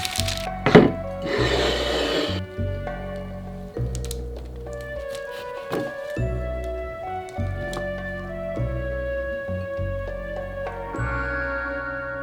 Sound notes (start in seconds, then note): 0.0 plate sliding